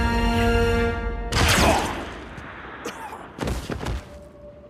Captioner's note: gunshot